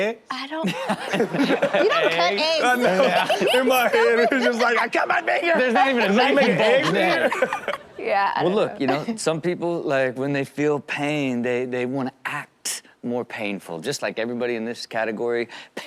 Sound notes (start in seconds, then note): 0.7 everyone laughs; 3.1 crowd laughing; 3.7 laughs; 7.0 crowd laughs; 8.8 laughs